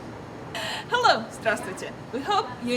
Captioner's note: speaks foreign language